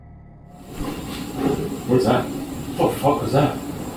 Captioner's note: banging